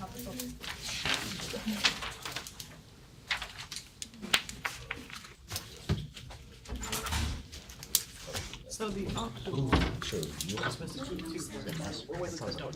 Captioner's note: students murmur